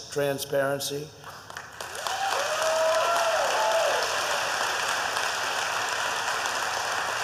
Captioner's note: applause